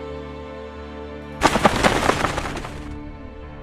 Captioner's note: wing flapping noise